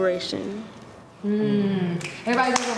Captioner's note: murmuring